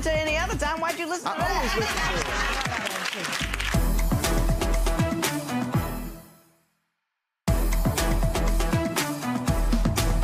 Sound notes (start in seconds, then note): 1.6 audience clapping; 3.6 dramatic music; 7.5 dramatic music